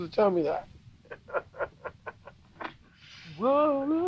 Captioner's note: Barney laughs